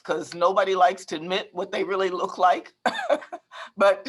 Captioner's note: laughs